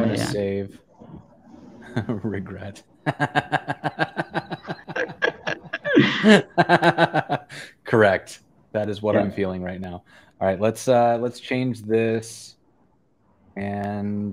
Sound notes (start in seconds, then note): 7.0 laughter